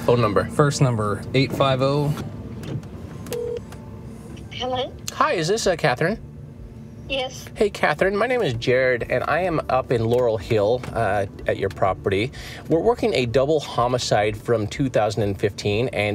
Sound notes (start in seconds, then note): 3.3 phone rings